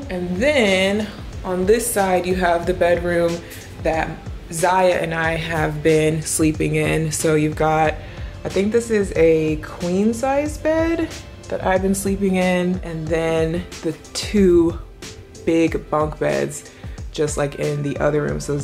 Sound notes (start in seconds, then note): none